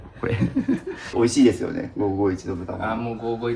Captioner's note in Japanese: 笑い